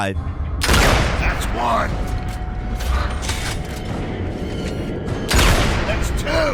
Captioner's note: gun firing